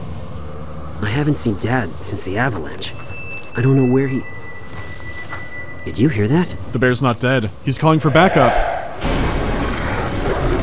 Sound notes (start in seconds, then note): 3.1 thin whistle; 8.9 music sting